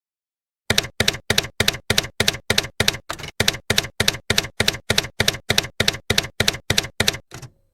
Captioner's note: typewriter keys clacking